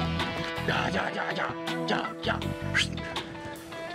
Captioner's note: whistles